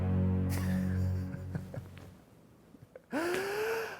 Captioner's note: ominous music; chuckles